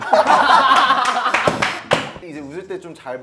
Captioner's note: failed to stop laughing